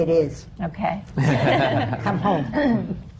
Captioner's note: laughter